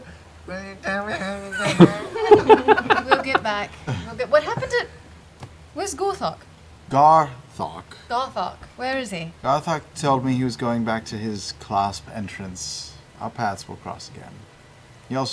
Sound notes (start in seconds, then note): 1.1 laughter